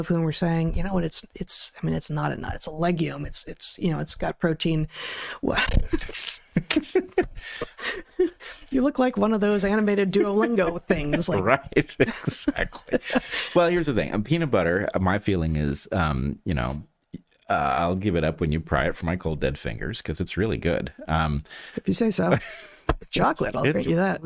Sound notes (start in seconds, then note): 5.8 laughter